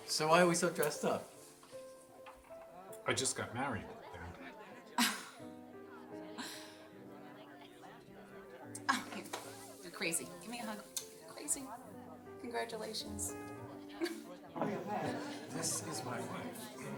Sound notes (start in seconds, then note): 3.9 laughing